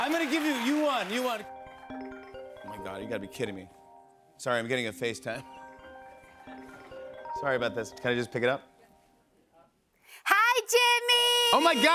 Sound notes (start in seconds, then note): 0.0 FaceTime ringing